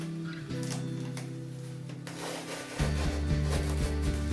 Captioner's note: pleasant music continues; tape ripping